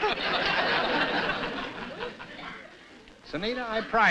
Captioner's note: laughter